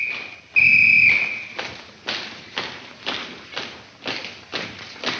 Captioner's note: whistle blowing; feet stomping